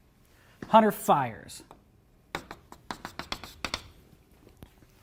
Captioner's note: chalk tapping